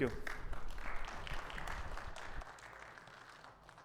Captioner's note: audience applauds